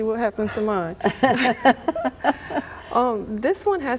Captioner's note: laughing